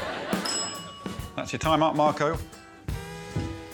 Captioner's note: audience laughing; bell dinging